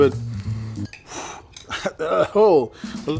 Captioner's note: exhales